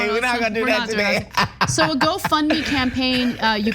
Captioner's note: laugh